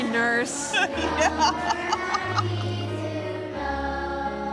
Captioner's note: laughing